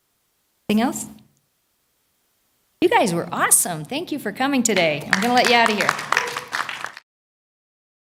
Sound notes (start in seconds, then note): 7.6 applause